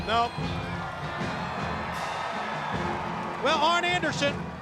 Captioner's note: crowd cheering